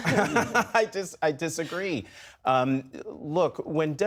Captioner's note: laughter